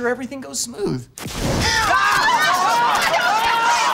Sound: screaming

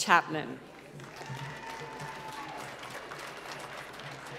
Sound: applause

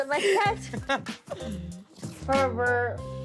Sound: laughing

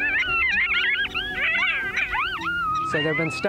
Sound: both howling

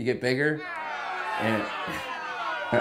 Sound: people jeering

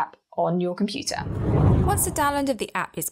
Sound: air whooshes

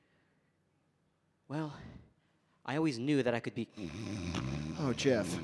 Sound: grunting

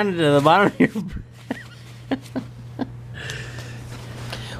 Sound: laughs

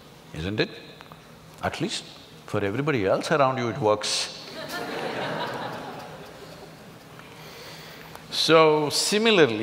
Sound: laughs

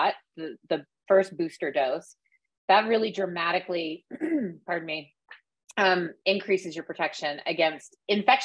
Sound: coughs

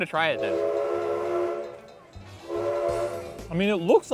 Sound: train whistling blowing

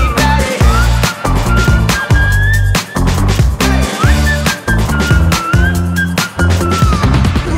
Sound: whistling

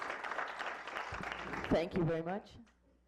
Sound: clapping

